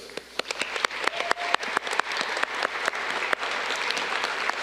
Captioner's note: audience clapping